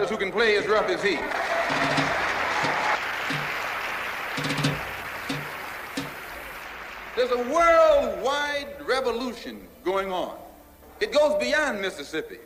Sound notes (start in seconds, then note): 2.5 audience applauding